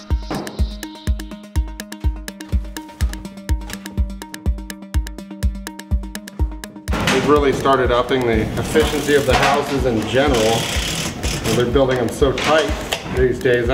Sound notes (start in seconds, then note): 0.0 electronic music; 0.3 tap on floor; 10.1 power rachet noises